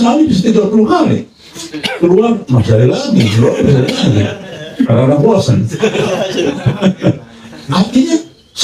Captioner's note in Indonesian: tertawa